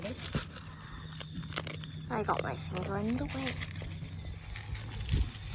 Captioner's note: kibble rattles and crunches